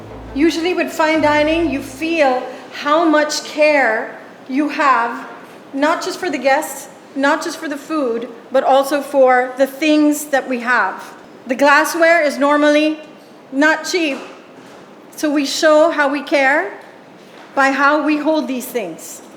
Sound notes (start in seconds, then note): none